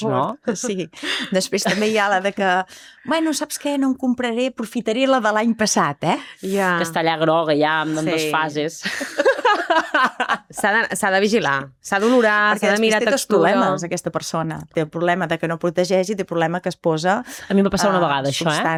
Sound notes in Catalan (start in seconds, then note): 8.8 rialles